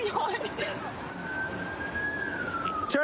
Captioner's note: siren wailing